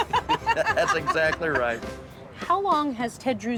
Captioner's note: both laugh